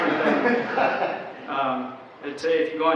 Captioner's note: audience laughter